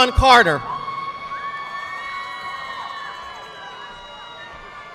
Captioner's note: audience clapping